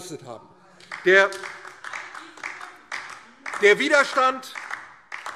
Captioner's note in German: Beifall DIE LINKE